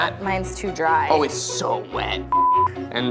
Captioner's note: beeps